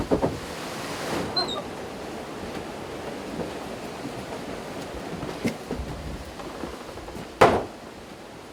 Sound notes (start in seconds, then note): 1.3 door squeaks